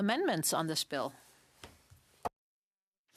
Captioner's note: speaking French